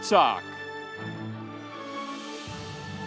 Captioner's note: audience applauding; sweeping music